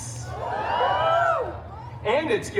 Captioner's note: guests cheering